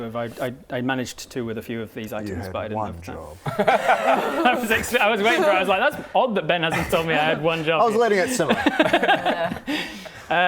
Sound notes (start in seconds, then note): 3.4 laughter up to and including termination